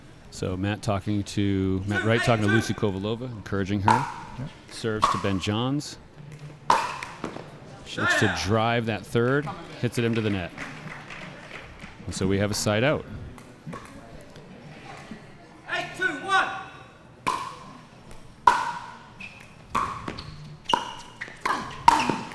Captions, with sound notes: So, Matt Wright talking to Lucy Kovalova, encouraging her. Serves to Ben Johns. (ball bouncing) She likes to drive that third. Hits it into the net. (audience applauding) So, we have a side out. - Eight, two, one. (ball bouncing)